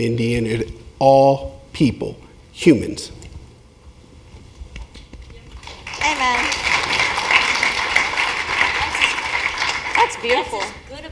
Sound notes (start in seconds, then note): 5.5 applause